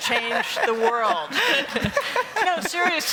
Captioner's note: laughter